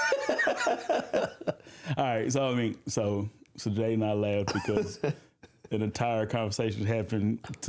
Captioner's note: laughter